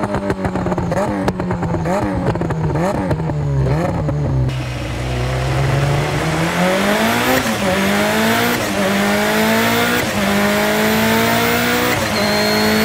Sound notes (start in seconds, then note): 0.0 engine reving, gear shifting; 6.4 engine reving, gear shifting